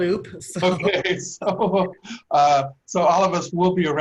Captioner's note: laughter